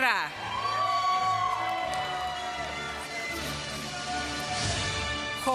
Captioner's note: applause